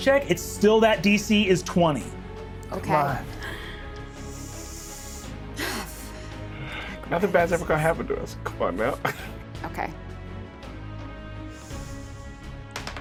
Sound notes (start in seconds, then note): 5.5 sighs; 10.6 tense music; 12.7 dice rattling